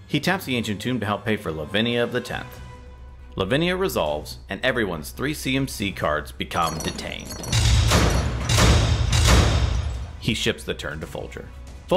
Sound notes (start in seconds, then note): 6.6 chains rattling; 8.8 rails thudding